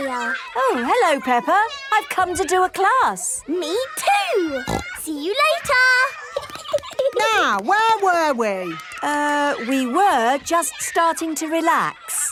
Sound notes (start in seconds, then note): 4.6 snorting; 6.2 giggling